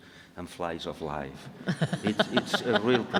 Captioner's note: laughing